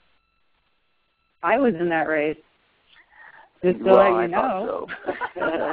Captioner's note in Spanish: risas